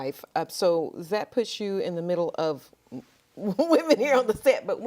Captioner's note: laughs